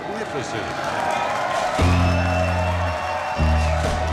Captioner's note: audience cheering